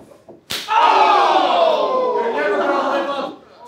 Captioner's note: audience cheering